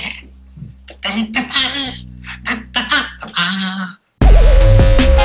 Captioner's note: Monkey Mikey vocalizes; hip hop beat